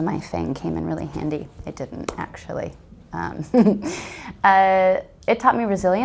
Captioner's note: laughs